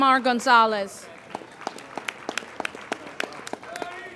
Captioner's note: applauding